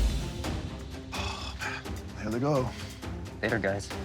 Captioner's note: dramatic music; sigh